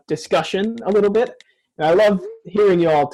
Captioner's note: keyboard clicking sounds from maisie. sent message sound